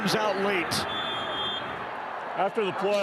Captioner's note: referee blows whistle